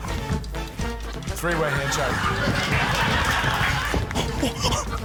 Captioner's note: laughter